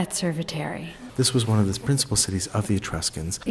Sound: voiceover

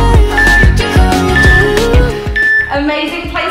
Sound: workout timer beeping

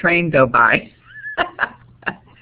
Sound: laughter

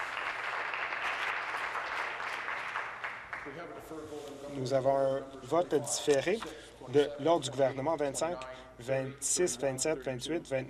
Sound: applause

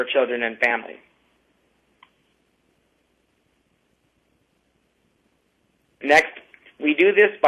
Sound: pause

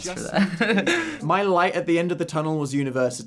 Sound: chuckles

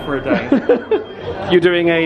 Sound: laughs

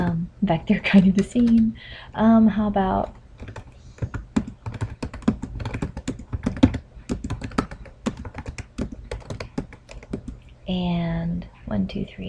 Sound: typing and counting

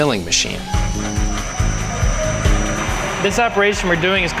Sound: machine whirring

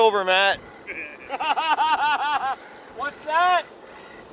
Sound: laughing

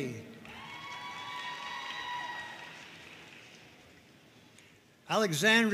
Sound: audience cheering and applauding

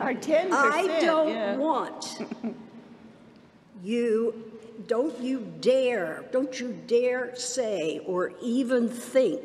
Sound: laughter

